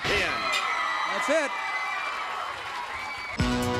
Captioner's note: crowd cheering